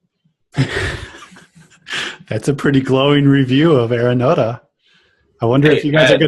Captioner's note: laughs